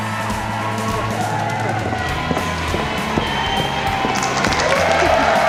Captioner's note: audience applause and cheers